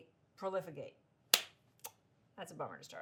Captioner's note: claps